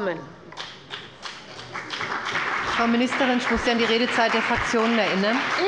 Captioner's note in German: Beifall bei der CDU und dem BÜNDNIS 90/DIE GRÜNEN